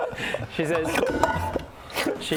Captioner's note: metal bottle falling over noises